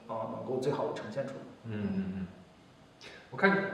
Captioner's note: nonverbal grunt as interjection